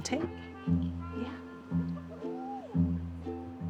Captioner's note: giggling